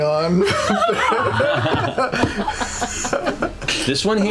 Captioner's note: laughter